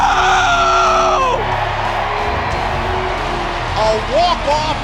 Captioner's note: cheering